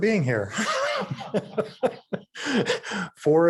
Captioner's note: laughing